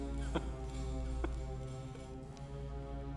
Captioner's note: chuckling